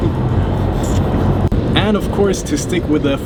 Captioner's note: kissing sounds